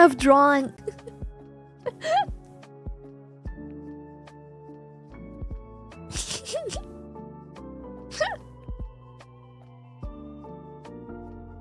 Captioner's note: laughs